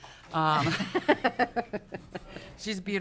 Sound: laughing

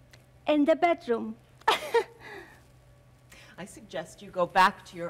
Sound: softly mimics chuckle

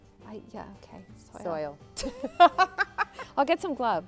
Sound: laughter

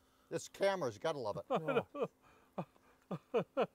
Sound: laughing

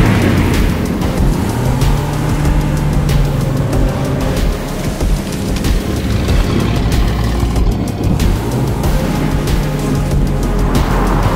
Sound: V8 Engine Noises

